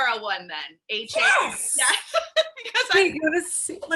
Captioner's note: laughs